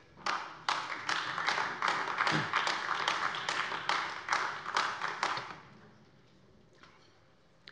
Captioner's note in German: Beifall AfD